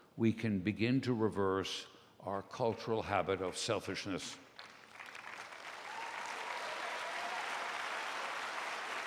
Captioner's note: applause, cheers